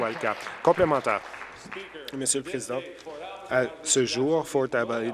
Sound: applause

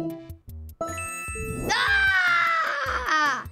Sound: screaming in surprise

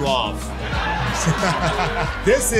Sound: laughing

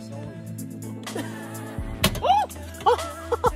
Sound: laughter

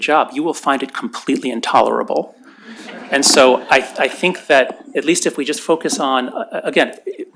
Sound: laughter

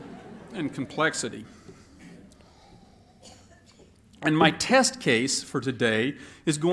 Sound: laughter

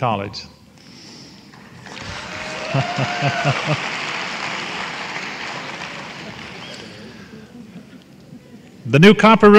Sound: applause

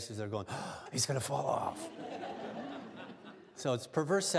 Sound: gasps

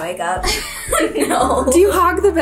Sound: laughs

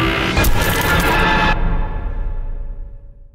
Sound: creaking door; BANG, cracked glass sound

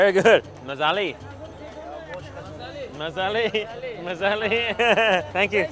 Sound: in foreign language

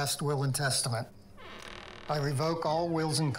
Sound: door creaks

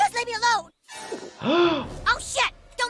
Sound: Butters gulping; doctor gasping

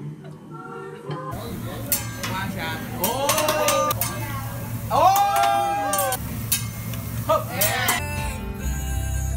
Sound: spatula clanging & people cheering

